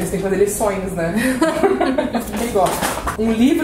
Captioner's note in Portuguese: risos